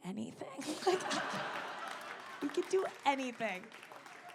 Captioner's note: audience laughing